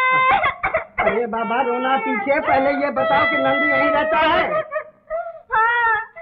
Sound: crying

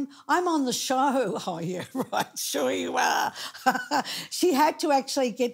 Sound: chuckling

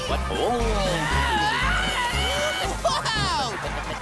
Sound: screaming

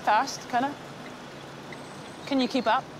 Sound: blinkers ticking

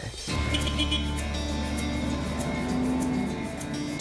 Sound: beep

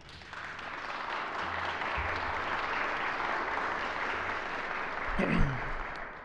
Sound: applause

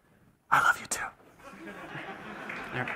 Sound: whispering; laughter and applause

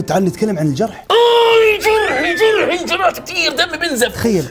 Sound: shouts

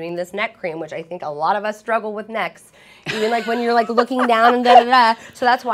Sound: laughter

